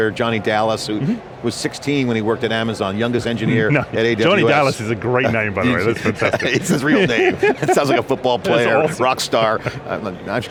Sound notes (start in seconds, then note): 5.7 both chuckle